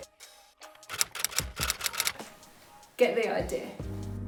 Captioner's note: keyboard typing